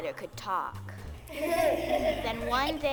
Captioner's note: children laughing